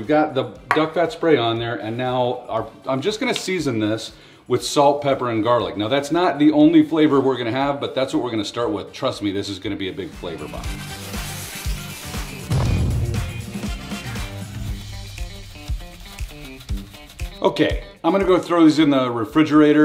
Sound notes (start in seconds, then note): 10.6 upbeat music; 12.4 explosion; 15.1 upbeat music